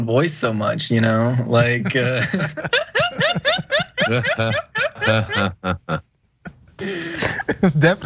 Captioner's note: laugh; laugh